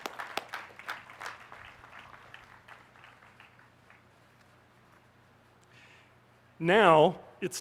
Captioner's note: applause